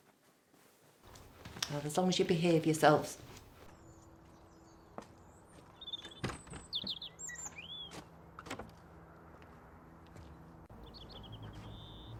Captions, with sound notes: Well as long as you behave yourselves. (Gate shutting) (Blackbird singing)